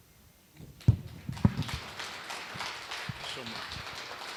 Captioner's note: applause